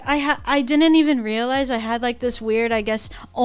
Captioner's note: none